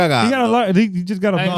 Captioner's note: speaking In Foreign Language